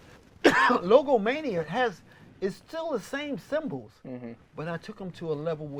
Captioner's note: cough